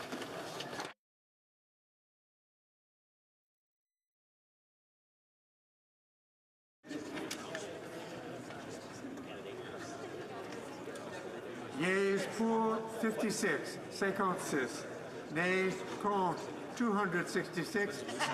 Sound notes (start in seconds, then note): 5.5 speaking French